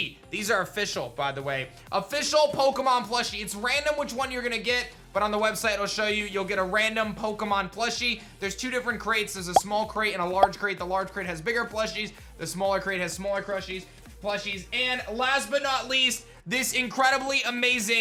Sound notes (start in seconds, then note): none